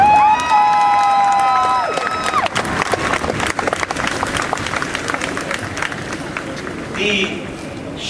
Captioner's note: applause